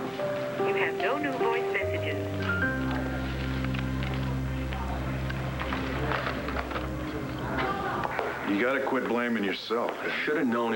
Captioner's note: answering machine beeps